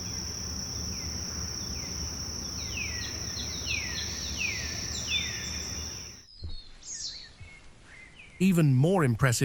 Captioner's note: birds chirping